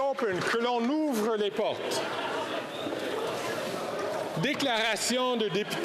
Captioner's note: applause